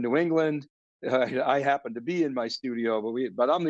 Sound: laughs

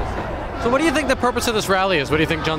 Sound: crowd noise

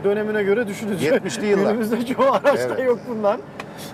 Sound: laughs

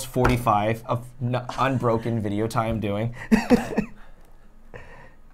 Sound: laughs

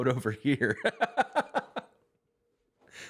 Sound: laughter

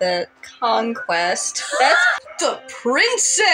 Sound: wheeze Laugh

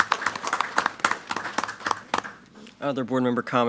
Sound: applause

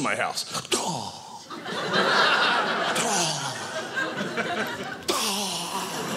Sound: audience laughing

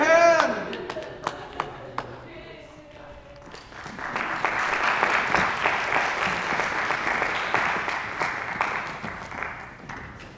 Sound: applause

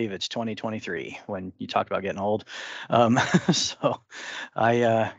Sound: chuckles

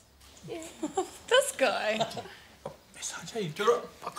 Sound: laughs

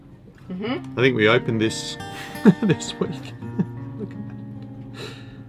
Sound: laughs

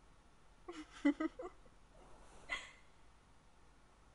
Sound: soft giggle

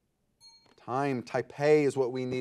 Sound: bell rings

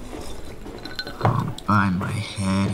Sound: ice cubes tinkling in glass

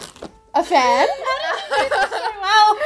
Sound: laughing

